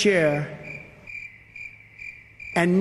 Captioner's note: crickets